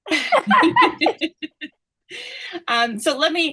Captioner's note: laughter